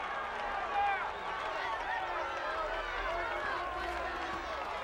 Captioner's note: crowd cheering